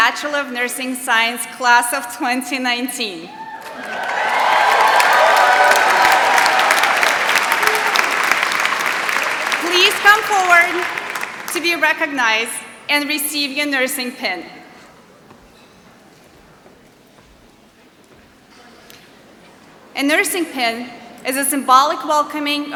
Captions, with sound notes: Bachelor of Nursing Science Class of 2019. [ Applause ] Please come forward to be recognized and receive your nursing pin. A nursing pin is a symbolic welcoming